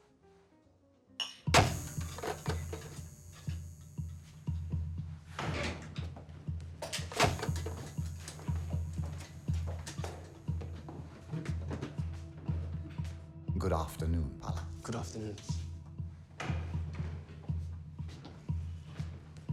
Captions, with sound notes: (glasses clink) (suspenseful music) (bulb buzzes) - Good afternoon, Palle. - Good afternoon.